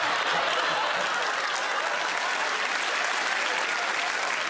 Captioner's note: laughter